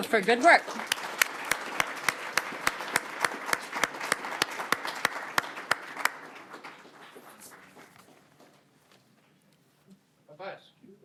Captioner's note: applause